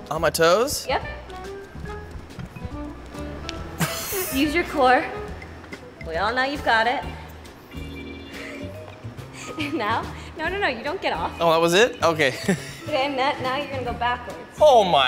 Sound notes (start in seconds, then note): 3.7 laughs